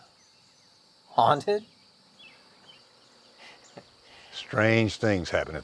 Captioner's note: chuckling